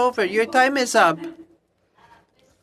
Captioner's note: speaking french